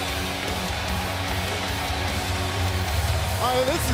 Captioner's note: crowd cheering